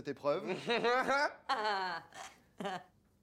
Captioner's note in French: rires contenus